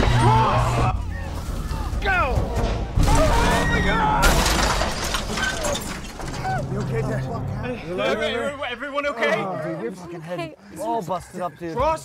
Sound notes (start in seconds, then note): 3.1 screams; 4.3 crash